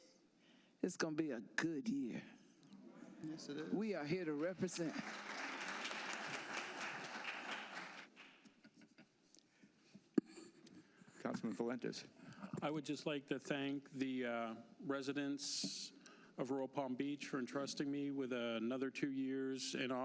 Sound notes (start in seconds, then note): 6.6 applause